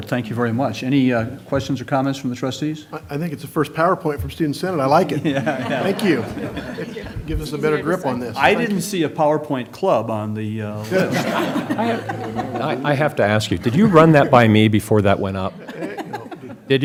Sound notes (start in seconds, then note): 5.1 laughter; 10.8 laughter